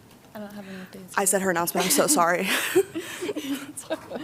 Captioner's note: laughter